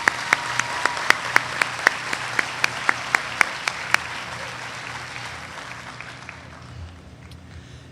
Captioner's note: applause